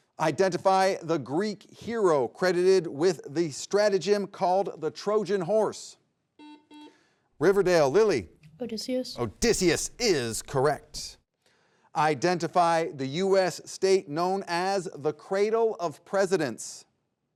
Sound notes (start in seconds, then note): 6.3 buzzer beeps